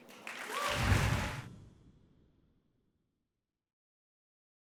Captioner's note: audience cheers and applauds